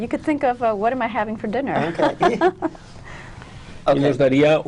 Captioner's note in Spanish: risas